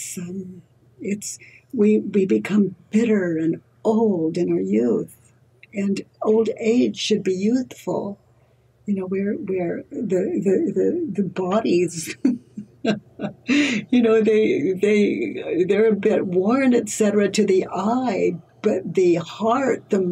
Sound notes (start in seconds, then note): 11.9 laughs